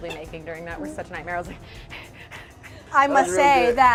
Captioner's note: pants